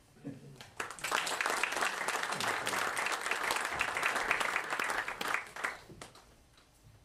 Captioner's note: applause